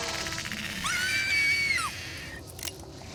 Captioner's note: screaming